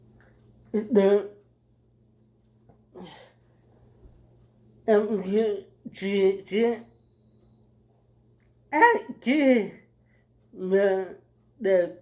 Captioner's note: sighs